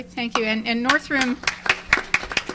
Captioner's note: audience applause